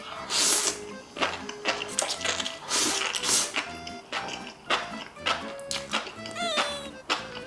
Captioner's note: crunch Crunch